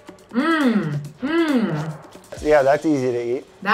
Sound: upbeat music; Elizabeth hums

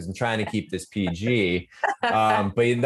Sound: laughing

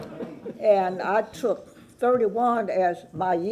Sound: laughter

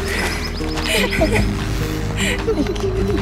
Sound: laughter

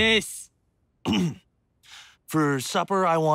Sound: throat clears

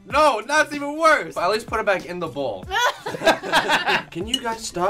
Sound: laughing

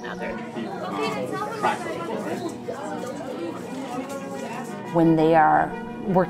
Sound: muffled classroom chatter

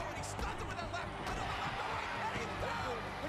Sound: audience cheering

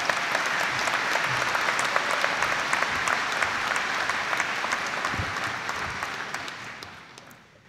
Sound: audience applauding

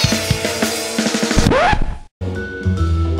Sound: record scratch

